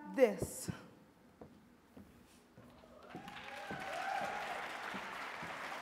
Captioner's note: audience clapping and cheering